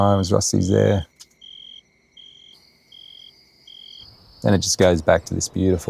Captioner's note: crickets chirping